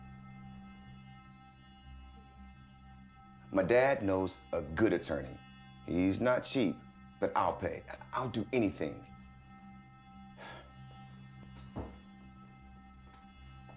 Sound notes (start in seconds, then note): 10.0 sighs